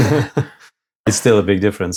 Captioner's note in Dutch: lacht